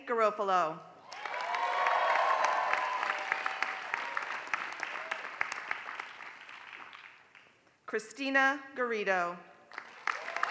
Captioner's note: applause; applause